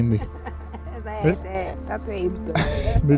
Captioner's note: laughs